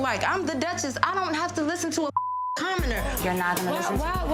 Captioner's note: beeps